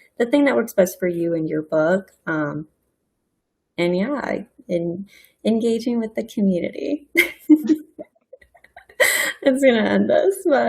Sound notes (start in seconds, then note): 8.4 laughs